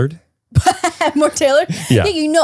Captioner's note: laughs